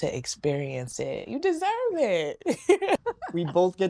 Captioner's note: laughing